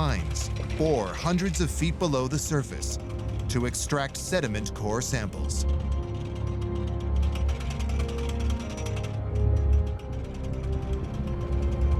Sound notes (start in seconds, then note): 5.6 pulley rattling; 9.7 orchestral music